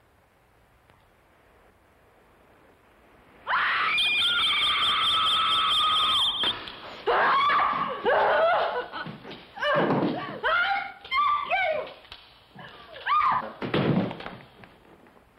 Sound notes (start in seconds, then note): 3.4 screaming